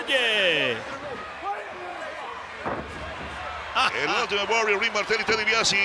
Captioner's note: laugh